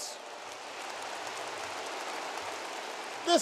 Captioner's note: applause